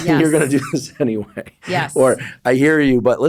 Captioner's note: laughs